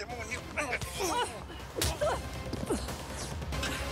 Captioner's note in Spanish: bofetada